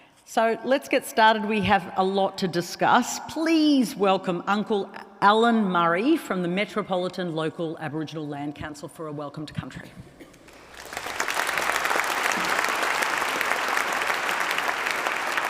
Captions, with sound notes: So let's get started. We have a lot to discuss. Please welcome Uncle Allan Murray from the Metropolitan Local Aboriginal Land Council for a Welcome to Country. (APPLAUSE).